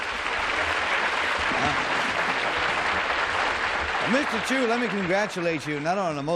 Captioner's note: applause